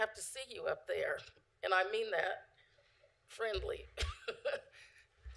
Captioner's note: laughter